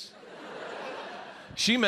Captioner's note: audience laughs